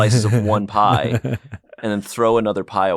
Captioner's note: Ian laughs